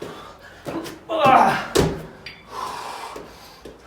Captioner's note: grunts